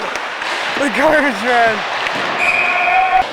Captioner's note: Caufield laughing